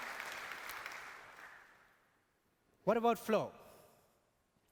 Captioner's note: applause